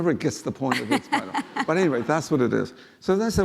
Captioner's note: laughing